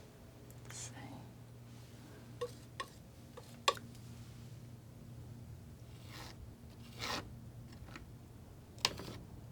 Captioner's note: scratching